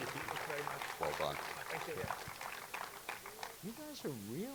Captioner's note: audience clapping continues